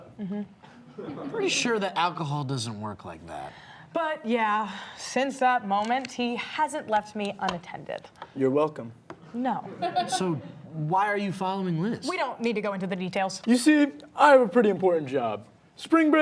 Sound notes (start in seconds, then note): 0.9 audience laughing; 9.7 audience laughing